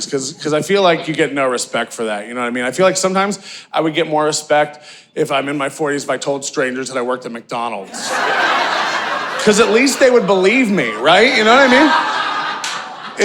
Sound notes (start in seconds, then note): 7.9 audience laughing